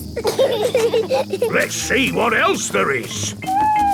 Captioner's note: bees buzzing